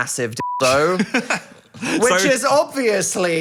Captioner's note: laughing